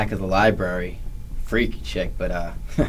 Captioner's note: laughs